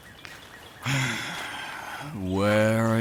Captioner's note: sighs